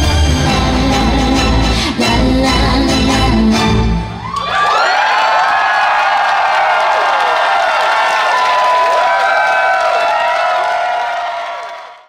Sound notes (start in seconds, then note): 3.5 upbeat music ends; 4.0 audience cheering